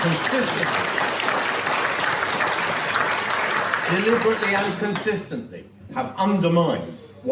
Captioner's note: applause